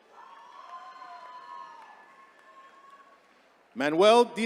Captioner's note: attendees cheering